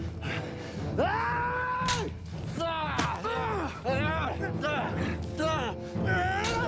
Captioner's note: knives clanging; fighters grunting; fists pound